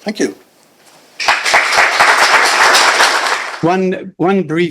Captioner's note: applause